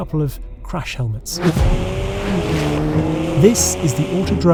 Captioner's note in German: Motor heult auf